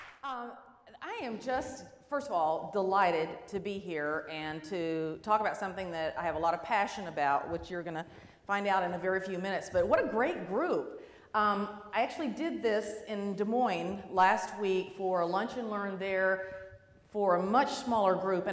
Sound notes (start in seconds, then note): none